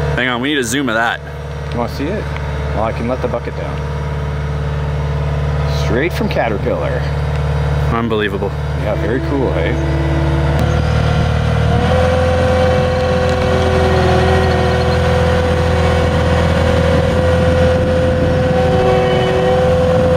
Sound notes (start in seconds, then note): 11.0 machinery noises